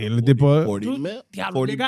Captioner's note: speaking In Foreign Language